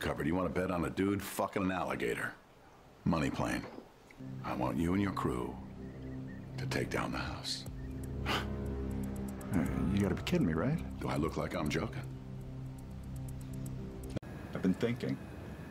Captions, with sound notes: You want to bet on a dude fucking an alligator? Money Plane™ I want you and your crew... to take down the house. *scoff* ...alright... you got to be kidding me right? Do I look like I'm joking? I've been thinking...